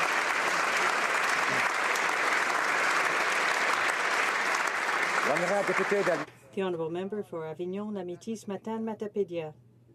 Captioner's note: applause